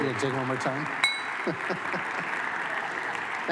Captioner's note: continued applause